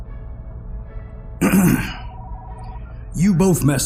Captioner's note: clears throat